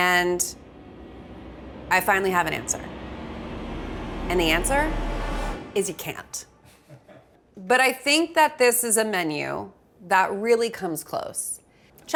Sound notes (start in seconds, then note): 6.7 laughs